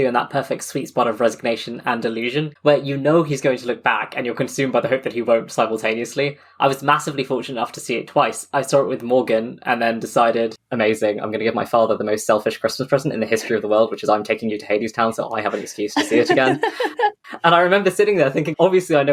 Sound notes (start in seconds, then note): 17.3 laughs